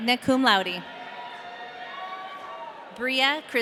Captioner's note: audience cheering